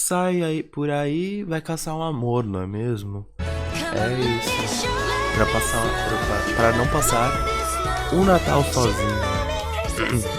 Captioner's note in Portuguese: risos